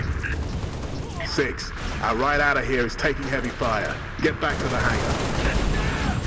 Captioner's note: radio; radio